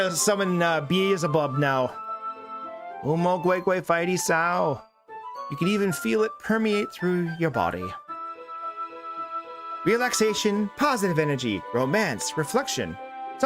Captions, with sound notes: We're going to summon bees above now. (speaks in foreign language) You can even feel it permeate through your body. Relaxation, positive energy, romance, reflection.